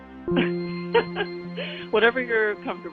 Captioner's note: laughing